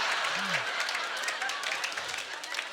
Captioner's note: audience laughter; scattered applause